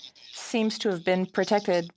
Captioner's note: speaking French